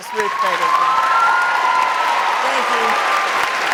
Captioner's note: audience cheering